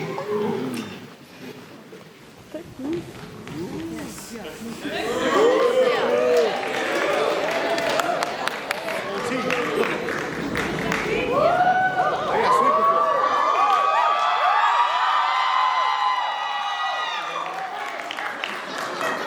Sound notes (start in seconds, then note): 5.7 applause